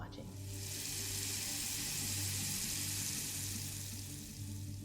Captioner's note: water running; suspenseful music